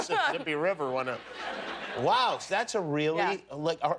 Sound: laughter

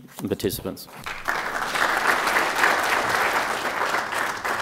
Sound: applause

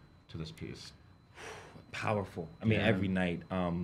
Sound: exhales sharply

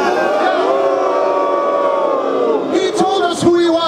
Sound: crowd: Boo!

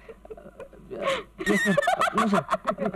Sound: laughs

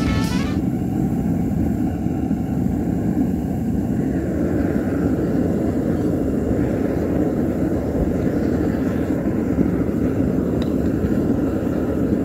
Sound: abrupt finish to music, furnace blasting noise

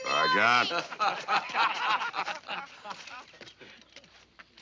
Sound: all laugh

